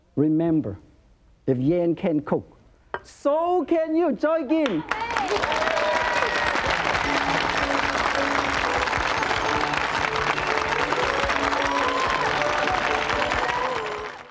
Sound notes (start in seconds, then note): 4.5 speaks in foreign language; 4.6 audience applauds; 6.4 cheerful upbeat music